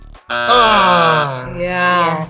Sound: buzzer buzzing

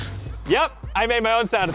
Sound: metallic whoosh

